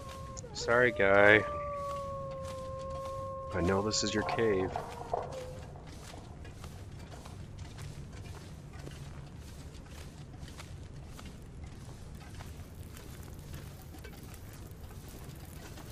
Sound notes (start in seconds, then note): 4.4 wolf whimpers and growls